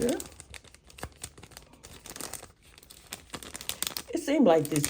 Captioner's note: money and plastic crackling